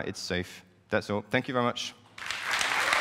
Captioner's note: applause